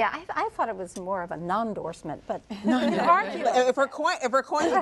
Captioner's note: laughter